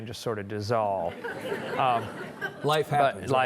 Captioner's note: audience chuckling